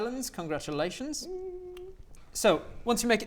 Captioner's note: small woo!